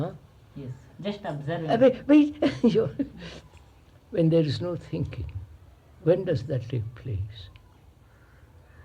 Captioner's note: laughs